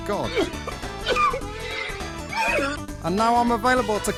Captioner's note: man crying